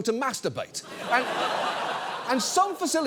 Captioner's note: audience laughs